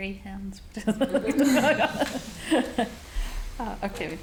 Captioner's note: audience laughing